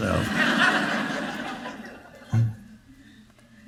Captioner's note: audience laughing